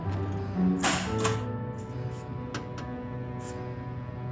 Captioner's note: time clock punching